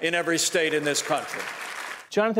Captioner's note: applause